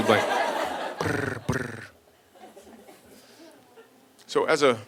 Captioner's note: rolls tongue